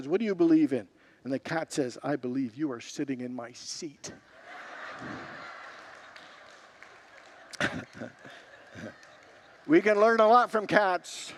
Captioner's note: congregants laugh